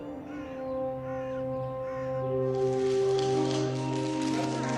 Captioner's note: wildlife chittering, birds cawing; shutters clicking, people talking in background